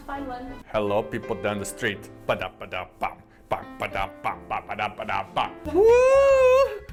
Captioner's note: sexy man voice